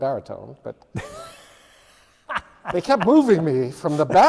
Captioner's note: laughs